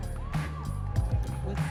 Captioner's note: audience members cheering